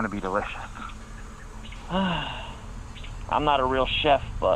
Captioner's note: sighs